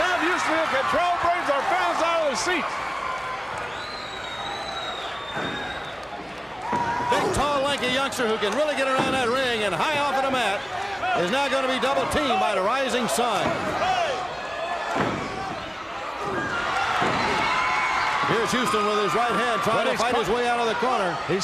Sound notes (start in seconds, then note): 4.2 crowd cheering; 17.2 crowd cheering